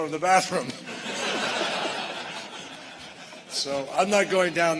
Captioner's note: laughter